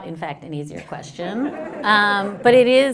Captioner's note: laughter